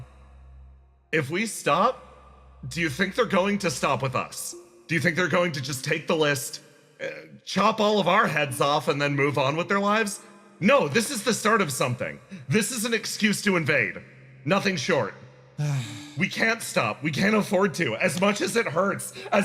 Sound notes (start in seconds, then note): 15.6 Gartrinus Sigh